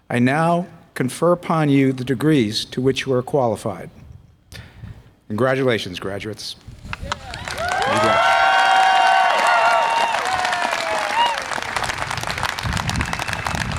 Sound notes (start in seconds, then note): 7.0 audience applause and cheer